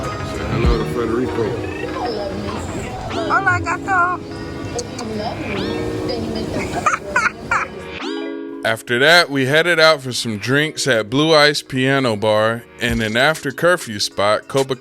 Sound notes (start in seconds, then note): 6.9 laughs